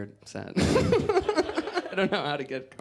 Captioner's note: giggles